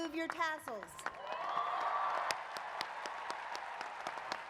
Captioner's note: applause